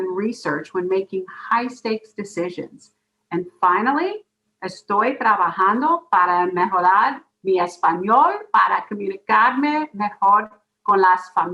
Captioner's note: speaks in Spanish